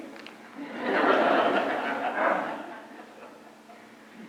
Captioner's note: laughter